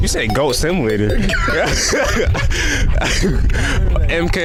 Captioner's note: laughing